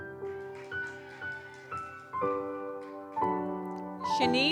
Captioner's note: gentle music continues; audience cheers